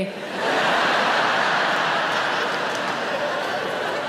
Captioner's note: audience laughing